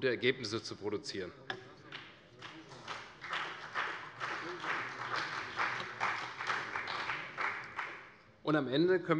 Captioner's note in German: Beifall bei der CDU und dem BÜNDNIS 90/DIE GRÜNEN